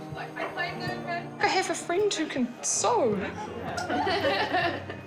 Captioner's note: chuckling